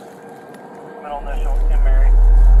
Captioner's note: radio chatter